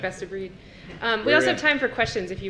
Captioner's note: laugh